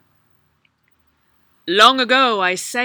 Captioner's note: Djinni voice